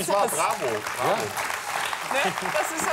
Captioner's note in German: Applaus